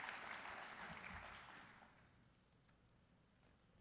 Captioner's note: applause